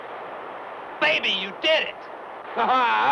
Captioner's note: laughs